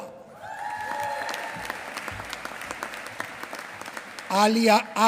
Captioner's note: applause